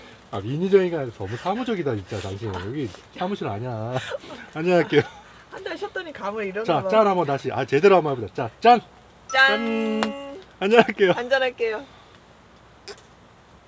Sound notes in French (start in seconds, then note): 9.1 Rires